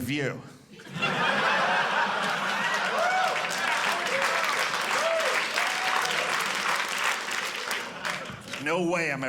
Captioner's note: audience laughing